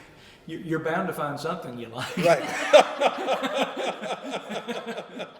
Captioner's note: laughter